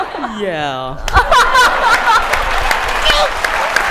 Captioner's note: laughter